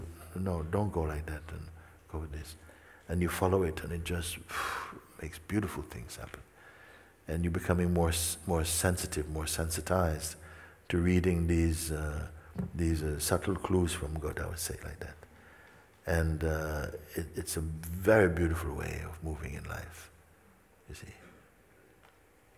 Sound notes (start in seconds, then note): 6.6 exhales